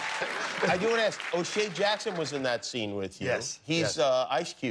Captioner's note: laughter